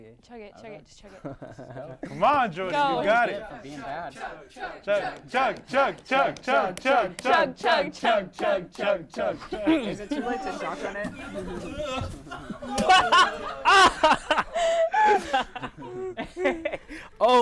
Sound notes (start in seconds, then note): 12.0 groans; 14.3 hosts laugh